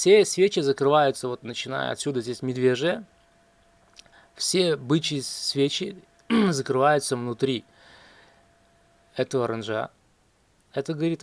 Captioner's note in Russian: откашливается